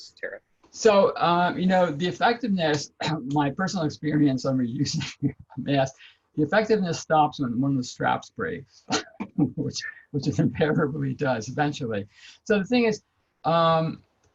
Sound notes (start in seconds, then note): 5.0 laughs